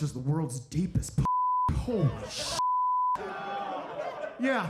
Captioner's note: audience laughing